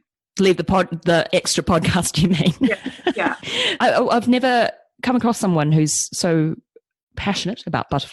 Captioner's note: laughs